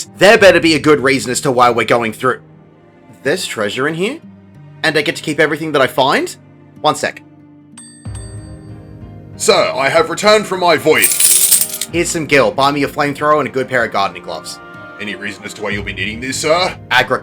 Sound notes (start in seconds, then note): 7.8 retainer bell sound; 10.9 rattling change